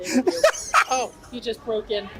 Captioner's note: laughs